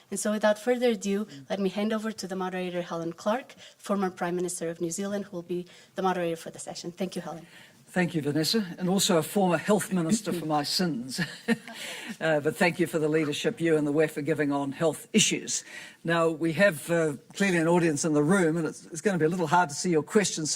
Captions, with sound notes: And so, without further ado, let me hand over to the moderator. Helen Clark, former Prime Minister of New Zealand, will be the moderator for the session. Thank you, Helen. - Thank you, Vanessa. And also a former Health Minister, for my sins. (audience laughing) But thank you for the leadership you and the WEF are giving on health issues. Now, we have clearly an audience in the room, and it's going to be a little bit hard to see your questions